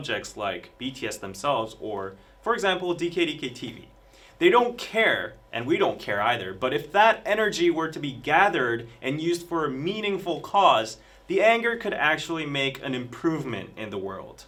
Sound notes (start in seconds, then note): none